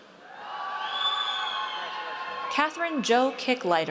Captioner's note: audience cheers